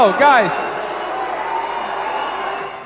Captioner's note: crowd boos